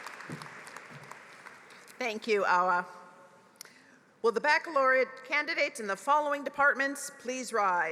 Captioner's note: applause